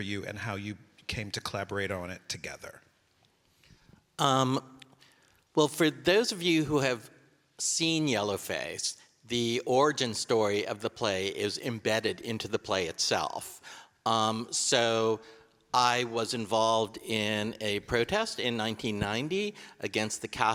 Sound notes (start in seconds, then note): none